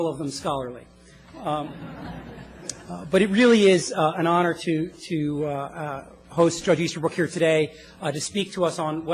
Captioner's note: laugh